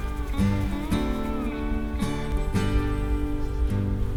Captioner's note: flies buzzing